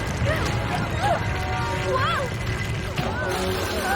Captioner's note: rumbling